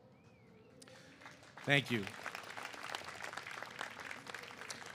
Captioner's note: applause